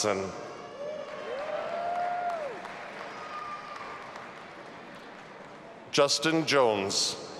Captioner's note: audience applauding and cheering